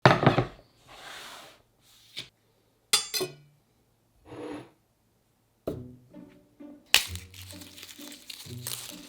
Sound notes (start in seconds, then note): 0.0 board sliding; 5.7 quirky music plays in background throughout video; 6.9 garlic paper rustling